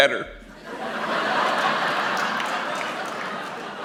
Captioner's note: laughter